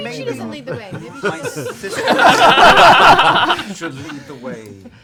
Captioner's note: laughter